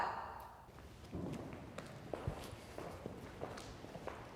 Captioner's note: footsteps approaching